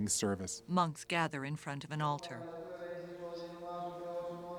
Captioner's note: chanting in foreign language